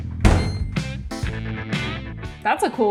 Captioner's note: washing machine beeps; upbeat music